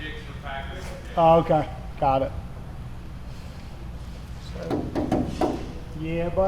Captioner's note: tapping car panel